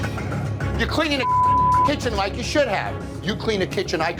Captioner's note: beep